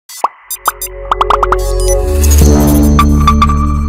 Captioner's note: graphics popping; dramatic music